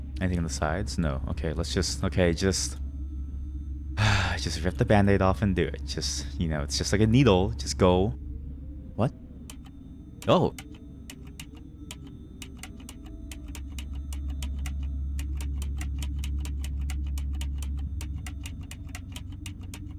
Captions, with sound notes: Anything on the sides? No...okay let's just—okay just— *deep sigh* just rip the band-aid off and do it just—you know, it's just like a needle, just go! What? Oh!